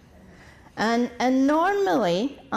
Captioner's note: deep breath